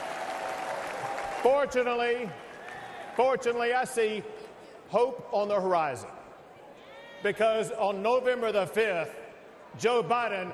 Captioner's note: applause